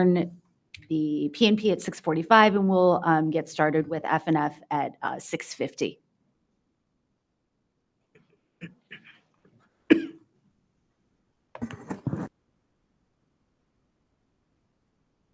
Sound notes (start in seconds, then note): 11.6 soft rustling